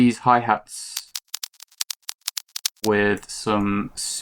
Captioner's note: clicking